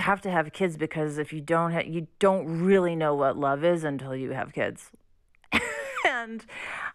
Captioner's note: laughter